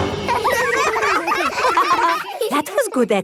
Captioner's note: all giggling